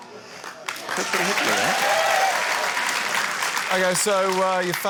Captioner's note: cheering, applause